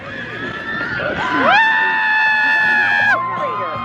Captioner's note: both exclaim; riders scream